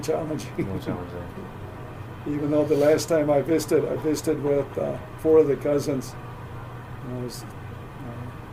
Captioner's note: laughs